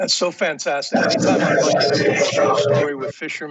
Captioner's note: transmission interference